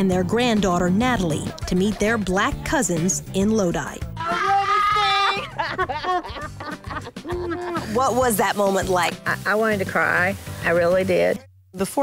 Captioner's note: laughter